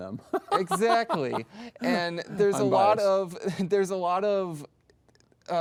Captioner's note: laughs